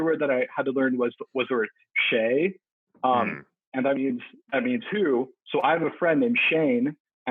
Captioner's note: speaks Mandarin